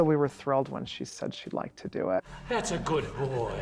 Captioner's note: panting